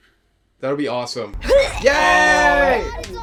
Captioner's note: hurling